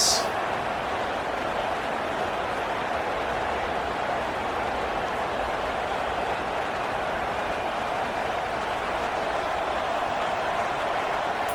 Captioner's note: crowd Noises